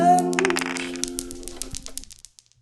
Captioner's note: dice rolling